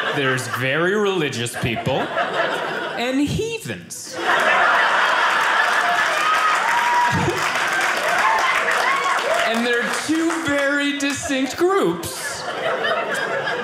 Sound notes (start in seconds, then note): 4.3 audience applauding